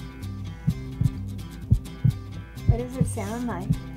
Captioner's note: heart beating